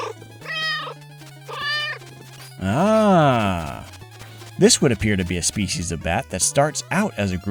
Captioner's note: meow, meow